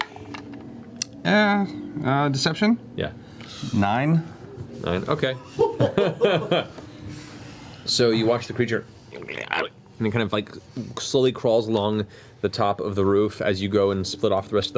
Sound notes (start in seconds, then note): 9.0 imp sounds